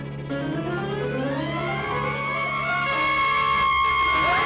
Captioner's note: bat shrieking